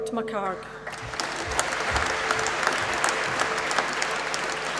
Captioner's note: applause